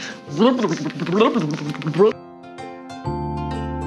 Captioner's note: blurbing happily; gentle relaxing music